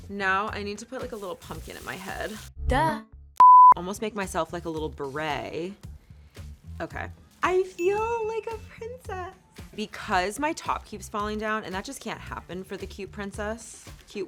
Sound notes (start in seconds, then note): 3.4 beep; 7.7 ding